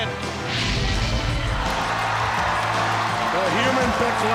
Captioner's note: crowd cheering